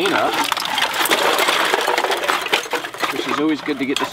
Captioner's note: objects falling